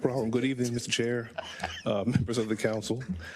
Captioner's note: laugh